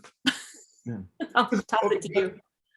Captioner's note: chuckles